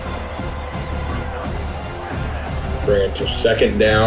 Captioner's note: crowd Noises